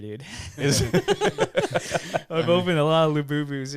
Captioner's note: laughing